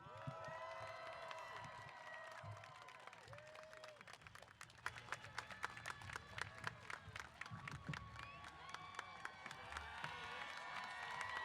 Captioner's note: applause & Cheers